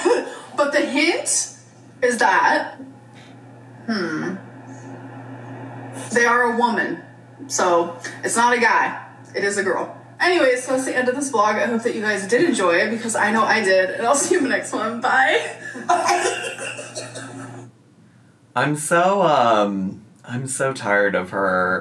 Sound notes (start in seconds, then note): 16.8 laughing